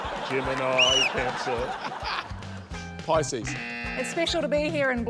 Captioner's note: laughter; blows whistle; buzz!